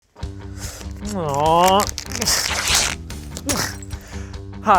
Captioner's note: grunting